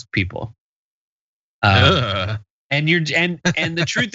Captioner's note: laugh